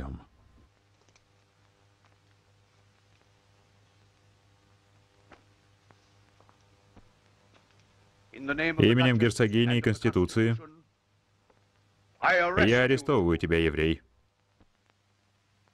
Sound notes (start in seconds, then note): none